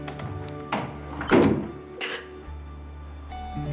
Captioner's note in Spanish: Ruido al cerrar la puerta